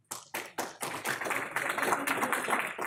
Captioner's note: clapping